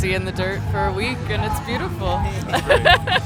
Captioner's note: laughing